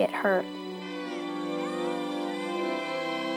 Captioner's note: kids yelling